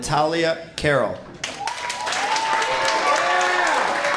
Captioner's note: cheers and applause